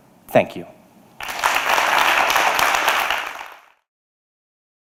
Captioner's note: applause